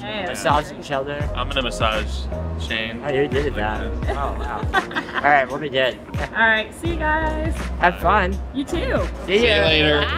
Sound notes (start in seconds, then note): 4.0 laughing